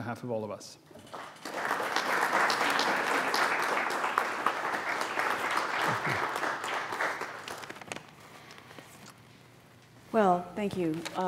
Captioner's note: applause